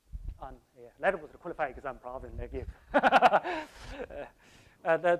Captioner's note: laughs